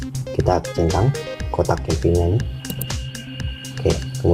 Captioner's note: click